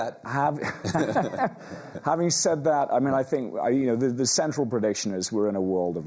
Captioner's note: laughing